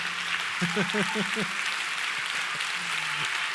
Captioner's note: laugh